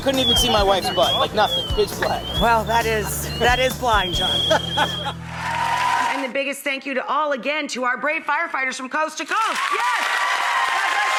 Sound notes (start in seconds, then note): 5.0 applause